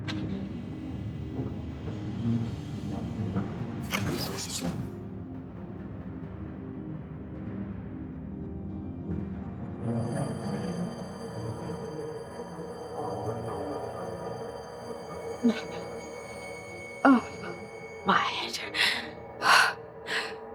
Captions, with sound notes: [dramatic music] [bell ringing] My head.